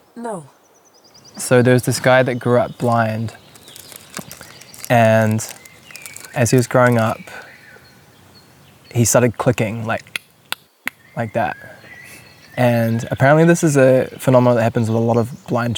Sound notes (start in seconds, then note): 10.6 clicks